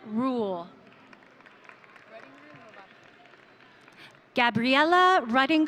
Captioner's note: audience cheering